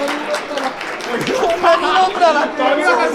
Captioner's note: laughs